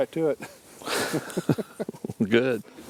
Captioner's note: chuckling